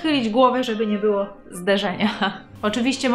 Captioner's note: laugh